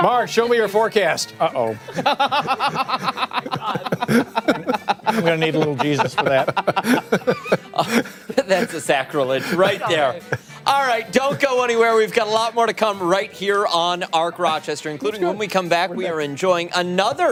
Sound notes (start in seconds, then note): 6.6 laughter